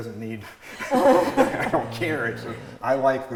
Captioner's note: laughs